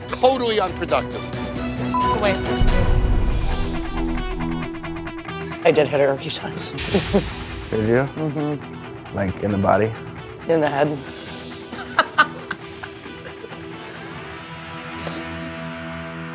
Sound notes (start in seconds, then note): 1.9 beep; 3.4 electric guitar music; 6.7 laughs; 11.4 laughs